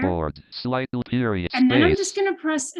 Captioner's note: screen reader rushing, skipping